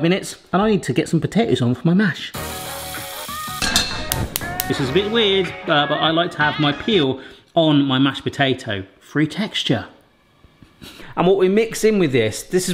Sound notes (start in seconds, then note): 2.4 upbeat music; 3.6 pan clunks